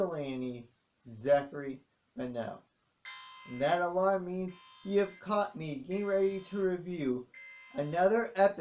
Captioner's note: alarm sounds